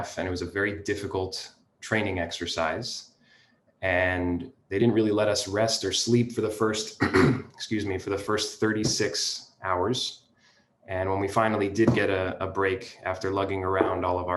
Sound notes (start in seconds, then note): 6.9 coughs